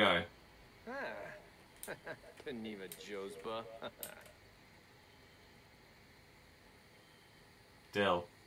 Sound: confused silence

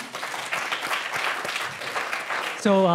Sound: applause

